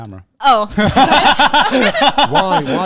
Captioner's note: all laughing